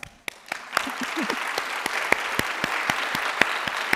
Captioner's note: audience applauding